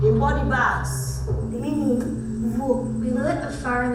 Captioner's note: voiceover